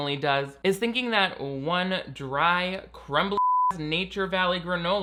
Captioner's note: beep